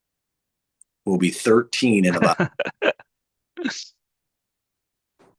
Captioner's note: interpreter laughing